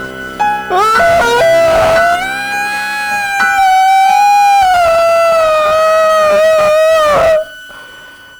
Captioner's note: scream